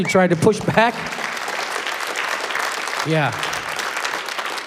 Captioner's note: applause